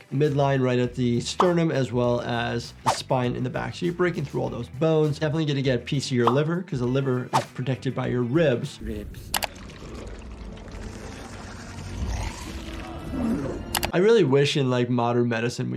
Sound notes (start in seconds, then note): 11.0 Venom snarls